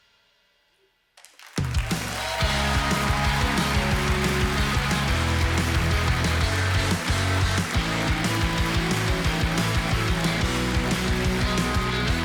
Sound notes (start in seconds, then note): 2.0 audience applauding